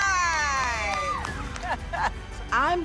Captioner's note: laughs